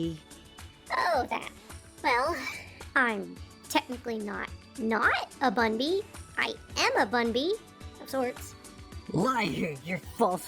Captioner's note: sigh